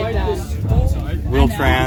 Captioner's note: flutter